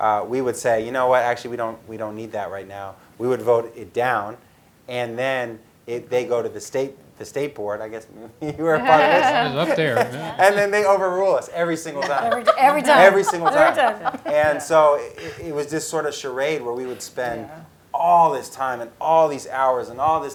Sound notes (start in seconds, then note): 8.6 laugh; 12.0 laugh